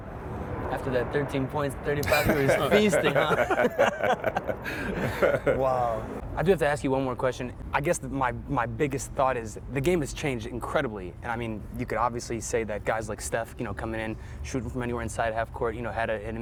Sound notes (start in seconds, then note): 4.7 laughter